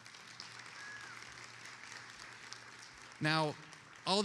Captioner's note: attendees applauding